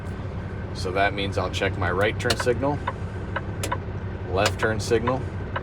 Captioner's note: indicator clicking